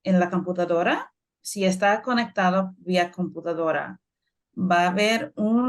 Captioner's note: speaking Spanish